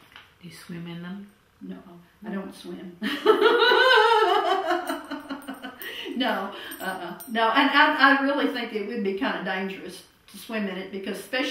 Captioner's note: laughter